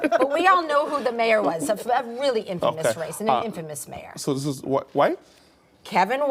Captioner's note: laughter